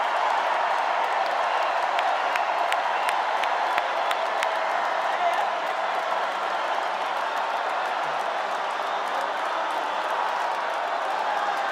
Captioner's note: cheers and applause